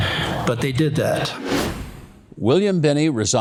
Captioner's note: wind whooshing